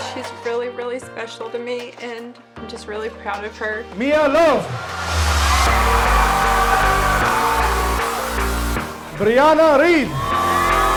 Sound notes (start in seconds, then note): 6.1 audience cheering; 10.8 audience cheering